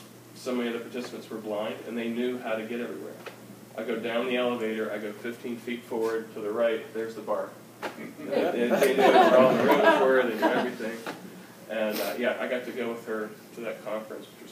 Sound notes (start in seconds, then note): 8.0 laughter